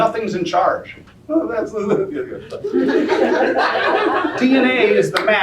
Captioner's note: laughter